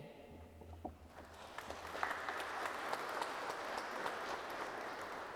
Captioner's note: attendees clapping